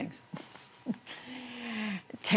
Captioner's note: laughter